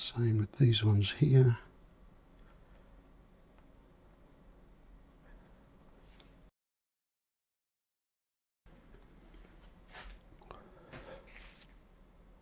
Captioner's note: silence